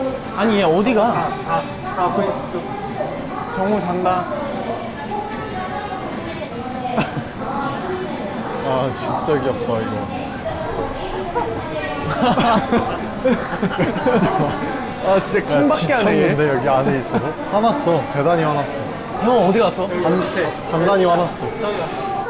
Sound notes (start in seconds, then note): 12.0 laughing